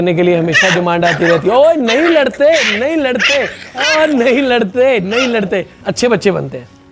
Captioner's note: dogs start fighting again